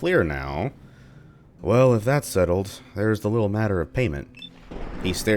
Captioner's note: thunder